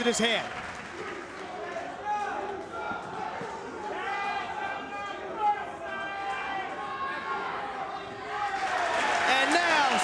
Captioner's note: applause